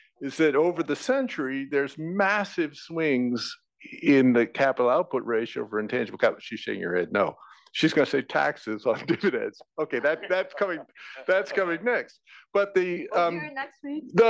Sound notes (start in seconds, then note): 9.8 laugh